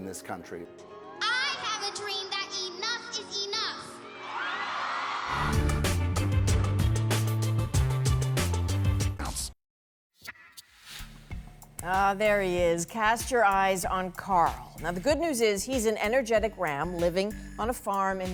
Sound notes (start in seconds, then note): 5.4 crowd cheering